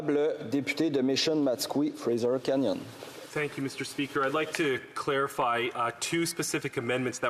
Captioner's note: speaking French